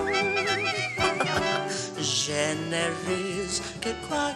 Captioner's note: chuckles